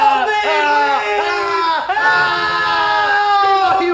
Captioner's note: both screaming